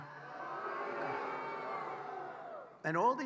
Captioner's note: applause